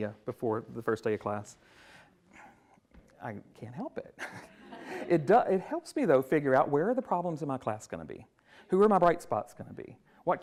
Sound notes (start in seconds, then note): 4.2 chuckles